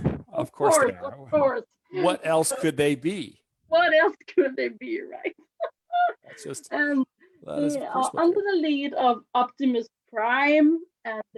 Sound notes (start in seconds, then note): 6.3 laughs